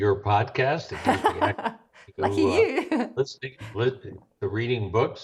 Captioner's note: laughs